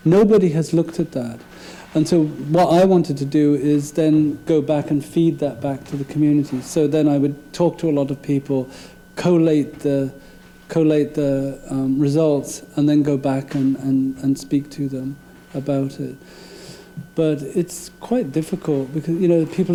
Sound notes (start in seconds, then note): none